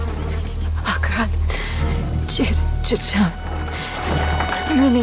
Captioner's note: woman chanting to Akarat; chanting frantically